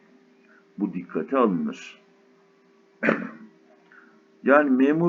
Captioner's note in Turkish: boğazını temizler